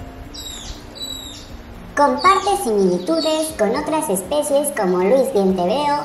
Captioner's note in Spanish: Sonidos de Myiozetetes similis